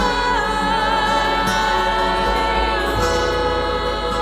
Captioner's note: none